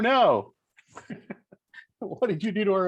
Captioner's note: laughs